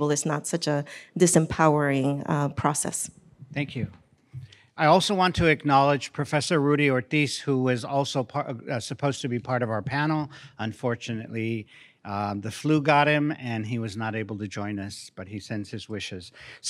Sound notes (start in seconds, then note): none